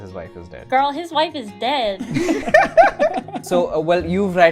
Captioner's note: laughter